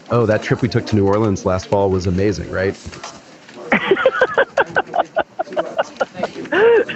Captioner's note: laughs